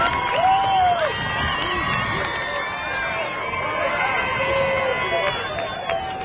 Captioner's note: crowd applauding; crowd cheering